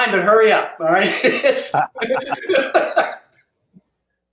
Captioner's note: laugh